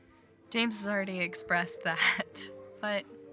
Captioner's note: laughs